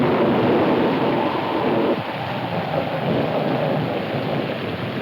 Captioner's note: wind howling